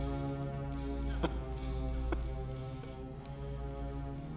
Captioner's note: chuckling